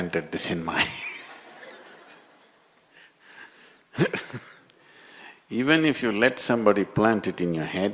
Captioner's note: laughs